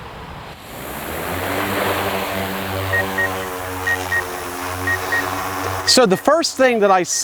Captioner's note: drone Noise